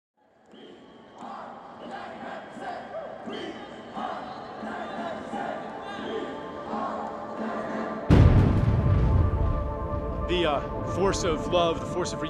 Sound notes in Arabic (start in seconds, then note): 3.2 هتاف المتظاهرين